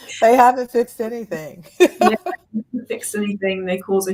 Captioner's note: laughs; laughs